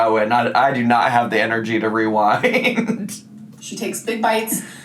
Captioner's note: laughs